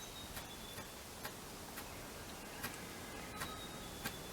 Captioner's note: ruffed Grouse flaps audibly